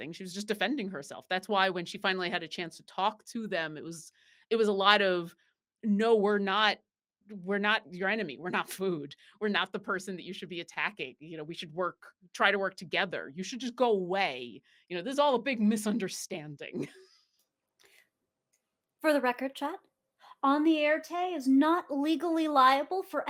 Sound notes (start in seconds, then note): 18.3 laughs